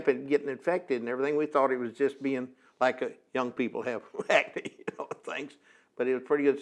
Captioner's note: laughs